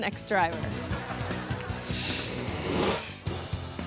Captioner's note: audience laughs; mid tempo music